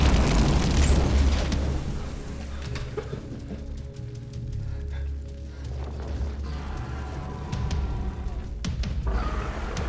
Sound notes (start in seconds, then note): 0.0 fire blazes